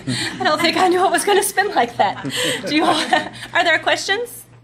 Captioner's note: laughs